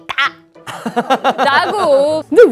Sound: laughter

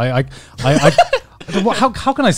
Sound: laughs

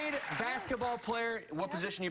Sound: cheers and applause

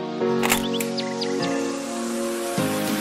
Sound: click

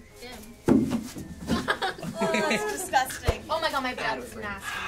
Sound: onion rolling on floor

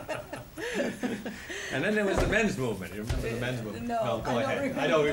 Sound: laughter

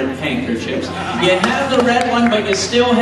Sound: audience claps

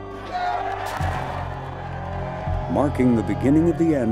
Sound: people shouting

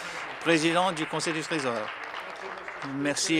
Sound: applause

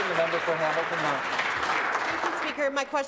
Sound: some Applause

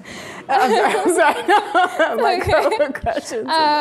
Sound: laughing

